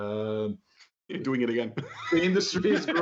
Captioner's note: laughter